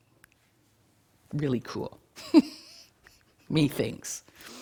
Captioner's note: laughing